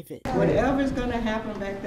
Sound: nat crowd reaction

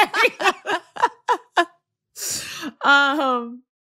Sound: laughter

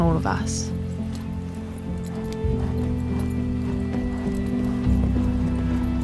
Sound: horse galloping

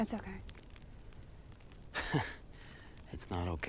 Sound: chuckles

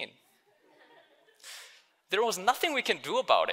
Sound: audience laughing

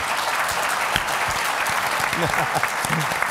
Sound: applause

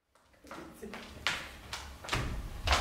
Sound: stick hits the ceiling

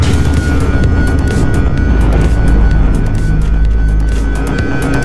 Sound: power outage, shockwave

